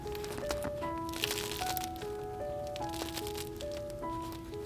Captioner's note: crunching